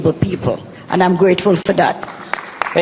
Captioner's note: applause